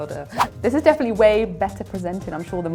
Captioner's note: whoosh